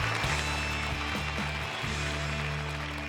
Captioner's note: applause